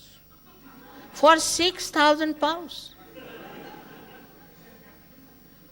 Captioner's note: laughter